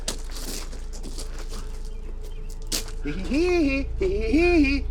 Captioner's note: man mock laughing